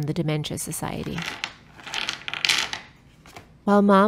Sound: objects clanking

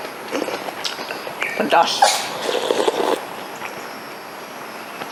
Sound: sneezing

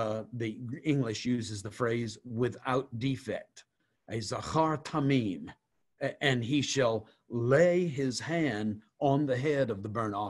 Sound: Hebrew

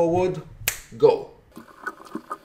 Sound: finger clicks

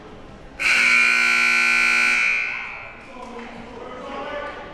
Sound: siren buzzing

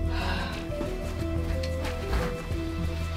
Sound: sighs

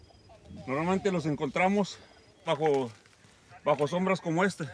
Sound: crew member speaks Spanish

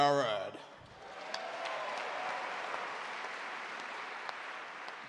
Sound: audience cheer and clap

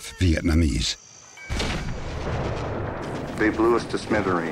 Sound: bombs exploding

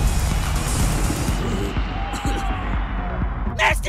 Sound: cough

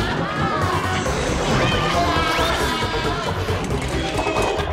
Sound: screaming

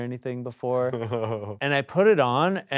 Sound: laughs

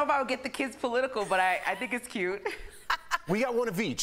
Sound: laughter

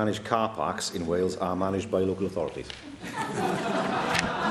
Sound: laughter

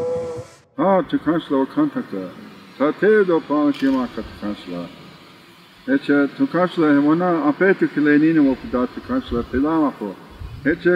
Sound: speaks in native language

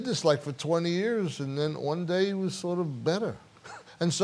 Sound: laughs

